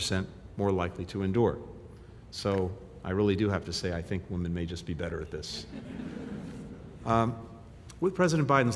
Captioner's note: laughter